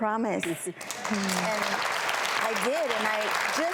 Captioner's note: clapping